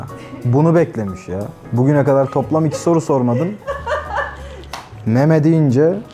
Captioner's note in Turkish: daha da güler